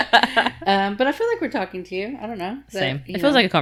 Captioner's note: laughing